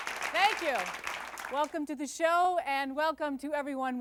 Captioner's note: applause fades